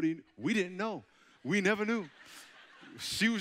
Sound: audience chuckling

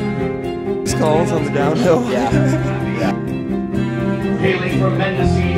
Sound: climactic melody; laughing

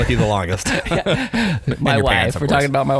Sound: laughing

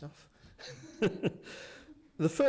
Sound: laughs

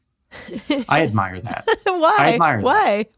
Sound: laughs

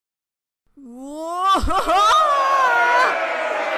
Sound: screams

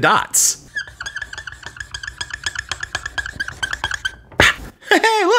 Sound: john making scribble sounds

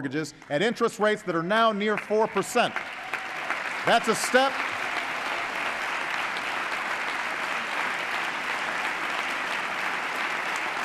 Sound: applause

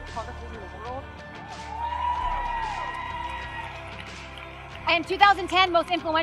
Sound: audience cheers and applauds

